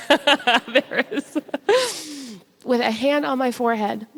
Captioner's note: audience laughs